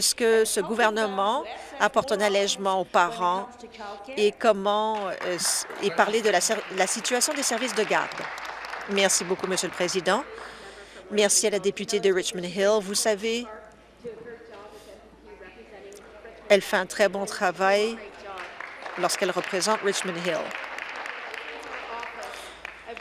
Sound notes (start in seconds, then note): 7.4 applause